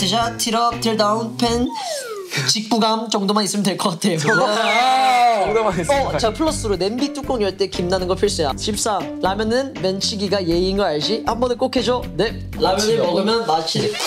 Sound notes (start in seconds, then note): 1.7 inhaling